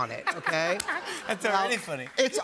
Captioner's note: laughter